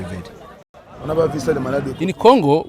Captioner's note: non-english speech